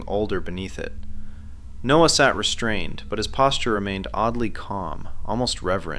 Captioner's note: sound: slow lamp creaking